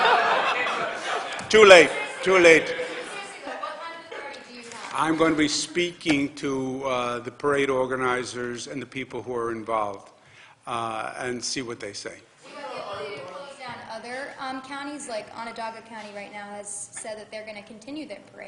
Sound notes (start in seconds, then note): 4.9 laughter